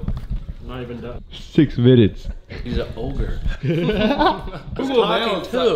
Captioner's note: Laughs